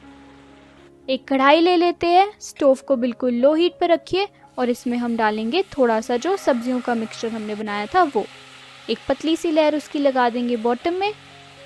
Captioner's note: stove at low heat